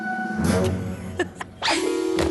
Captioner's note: chuckles